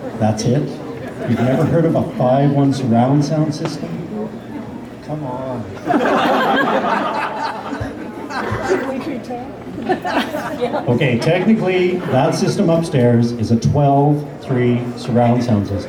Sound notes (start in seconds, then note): 5.8 laughter